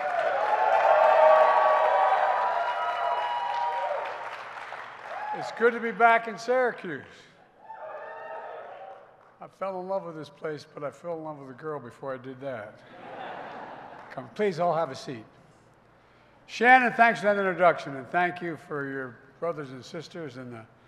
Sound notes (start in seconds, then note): 0.0 applause; 8.6 applause; 12.8 laughter